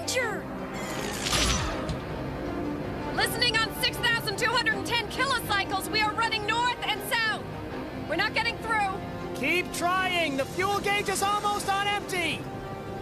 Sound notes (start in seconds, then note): 0.8 zapping sound